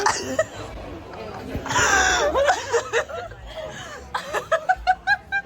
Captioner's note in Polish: śmiech